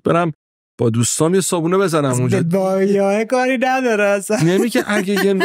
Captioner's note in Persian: خنده